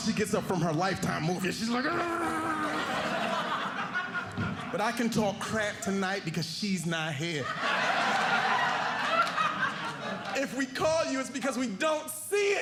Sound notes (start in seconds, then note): 7.2 audience laughing